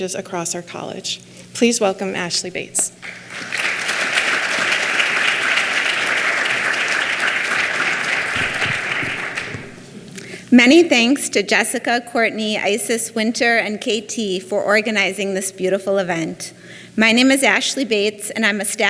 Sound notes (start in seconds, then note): 3.0 clapping